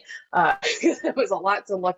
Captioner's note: chuckles